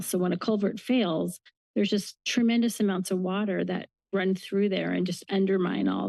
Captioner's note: none